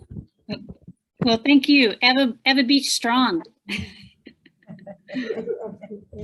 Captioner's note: laughing